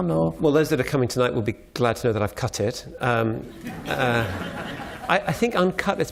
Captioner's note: laughter